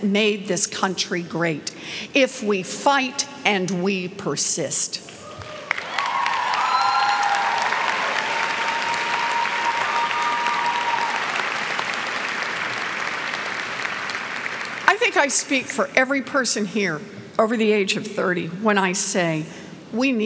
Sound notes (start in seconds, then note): 5.2 cheers and clapping